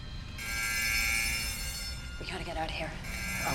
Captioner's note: alarm blaring